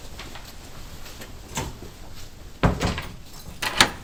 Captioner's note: door clacks; latch clunks; keys jangle